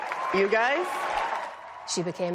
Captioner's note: cheering